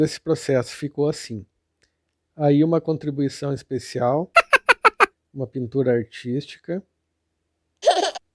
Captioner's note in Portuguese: risos